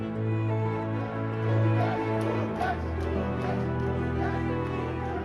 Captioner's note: Crowd Cheers Gukesh